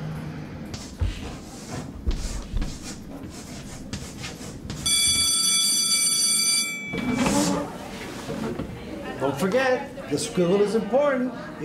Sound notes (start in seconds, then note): 0.7 sound of chalk on a chalkboard; 4.8 school bell rings; 6.8 chairs screech; 7.2 students chatter